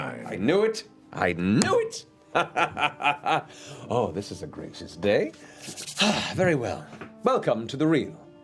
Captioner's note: laughs